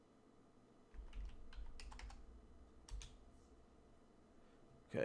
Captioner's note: typing